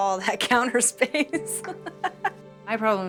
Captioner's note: laughs